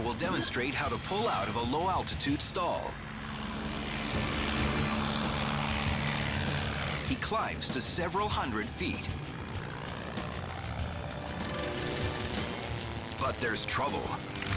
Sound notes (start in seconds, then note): 3.4 engine roars; 11.7 engine stalls